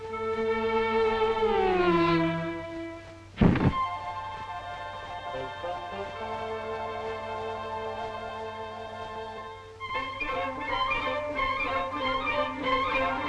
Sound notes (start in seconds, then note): 0.1 ominous music; 3.3 upbeat music; 3.4 body thuds; 10.0 playful music